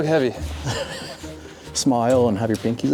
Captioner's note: laughing